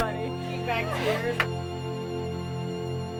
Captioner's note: clap